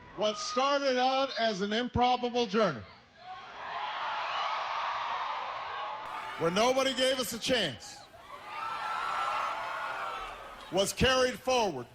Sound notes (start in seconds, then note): 3.2 young people cheering; 8.6 marxist applause